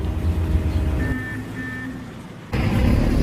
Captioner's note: car Beeping